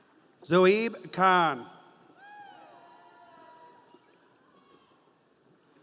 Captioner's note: audience cheering